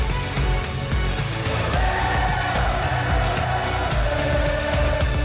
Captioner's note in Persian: صدای تشویق